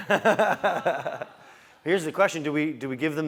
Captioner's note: laugh